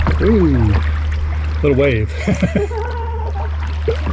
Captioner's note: laugh